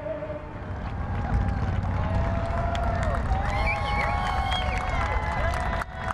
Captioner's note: people cheering and applauding